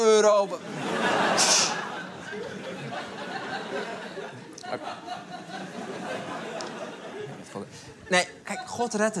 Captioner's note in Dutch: Gelach